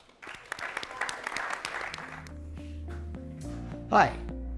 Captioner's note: audience applauding